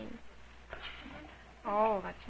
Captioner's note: children snickering